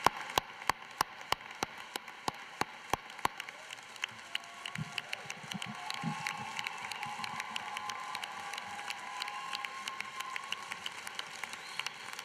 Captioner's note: cheers & applause